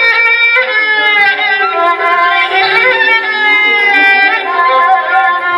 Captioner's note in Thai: ปรบมือ